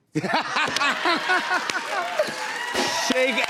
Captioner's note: laughter